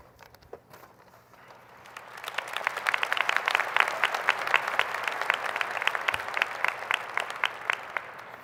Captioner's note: applause